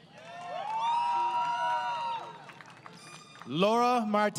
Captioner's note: crowd Cheering